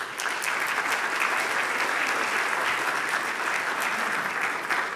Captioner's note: audience applauding